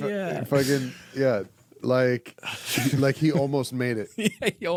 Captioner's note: laughing